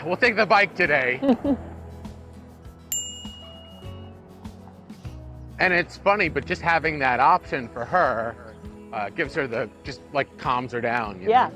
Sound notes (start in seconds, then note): 1.2 chuckles; 2.9 bell dings